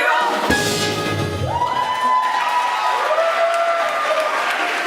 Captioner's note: applause